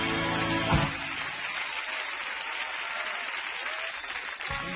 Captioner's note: audience applauding